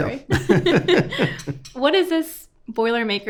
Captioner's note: both laughing